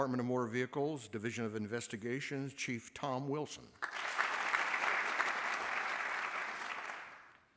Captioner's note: applause